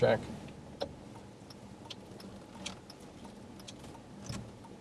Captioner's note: car signal clicking